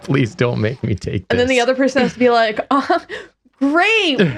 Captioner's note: giggle